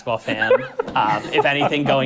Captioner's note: laughing